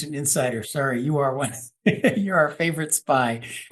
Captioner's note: laugh